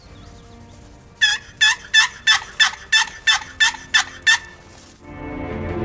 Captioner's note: turkey calls